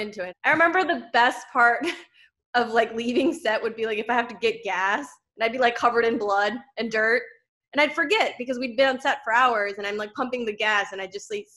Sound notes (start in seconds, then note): none